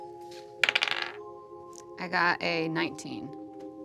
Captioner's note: dice bouncing